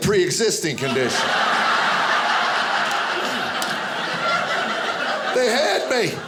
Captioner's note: audience laughing